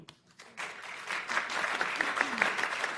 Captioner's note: applause